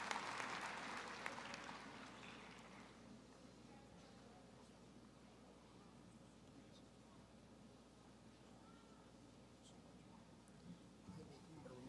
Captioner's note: applause